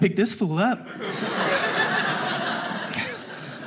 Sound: audience laughing

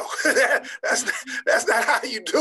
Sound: laughing

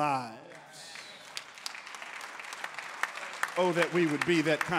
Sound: congregants applauding

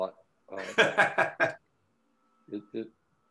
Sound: laughing

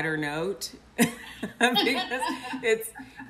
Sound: both laugh

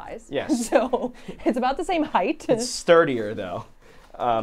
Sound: laughs

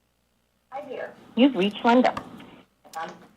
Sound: machine Voice

